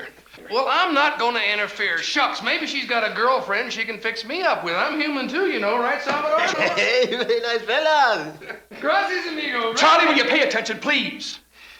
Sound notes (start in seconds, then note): 5.8 laughs